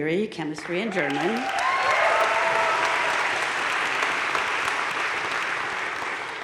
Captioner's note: audience cheering and applauding